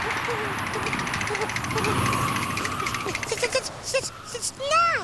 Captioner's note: teeth chatter